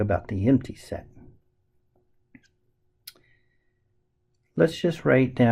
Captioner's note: tapping Sounds